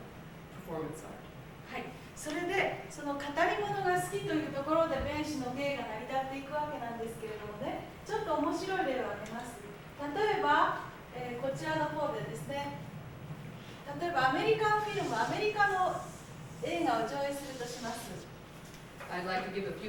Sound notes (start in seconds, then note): 2.0 speaking Japanes